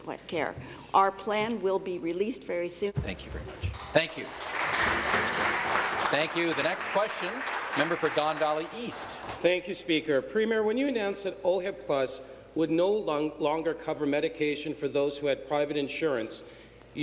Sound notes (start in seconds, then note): 7.9 applause